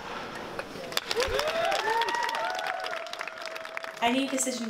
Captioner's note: fading applause